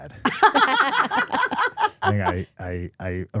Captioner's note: laughing